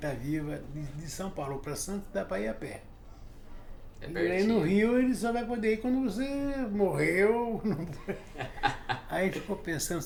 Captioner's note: laughs